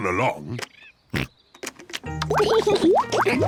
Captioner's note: oinks; laughs